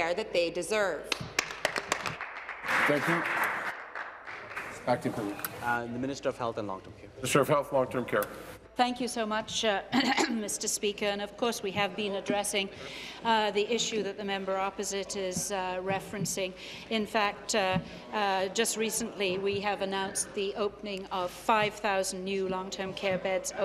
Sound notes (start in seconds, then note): 5.1 applause